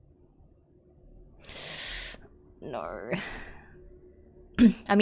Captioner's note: sharp inhale